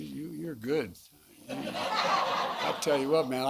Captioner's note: laughter